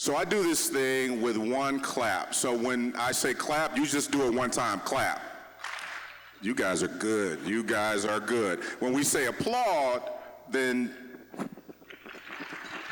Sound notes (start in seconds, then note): 5.5 audience clapping once; 11.8 applause